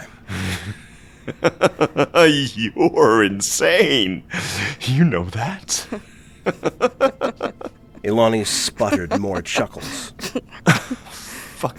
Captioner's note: amused, chuckling